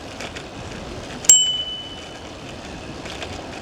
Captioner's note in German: Klingel